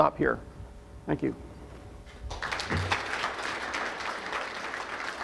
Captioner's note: audience applause